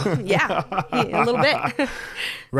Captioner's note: laughs